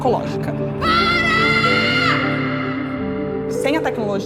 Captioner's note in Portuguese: grita